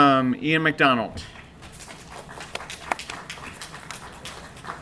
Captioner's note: applause